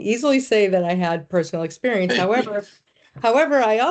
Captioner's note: chuckling